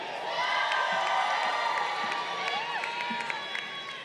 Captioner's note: crowd cheering